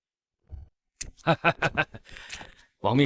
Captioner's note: laughs